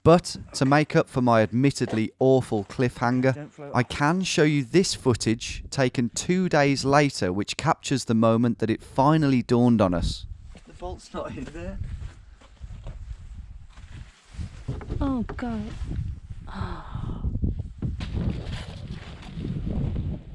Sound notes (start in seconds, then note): 16.8 gasps